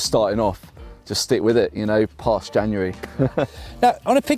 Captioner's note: laughs